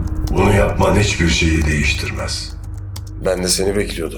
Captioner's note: unknown echo